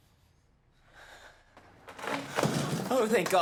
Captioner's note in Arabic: صرير